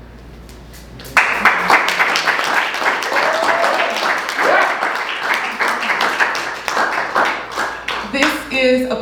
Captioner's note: applause